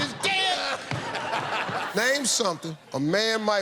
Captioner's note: laughter